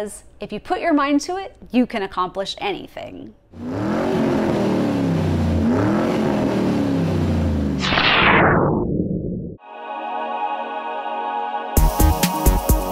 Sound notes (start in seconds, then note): 3.5 engine revving; 9.8 electronic music